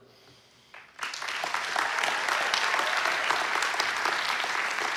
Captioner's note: applause